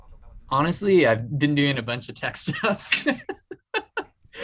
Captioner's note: laughs